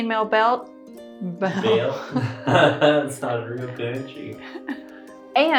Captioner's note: chuckles